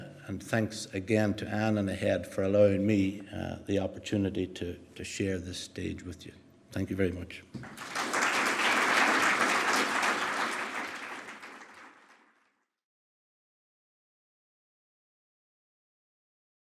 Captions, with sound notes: Thanks again to Anne and ahead for allowing me the opportunity to share this stage with you. Thank you very much. (APPLAUSE)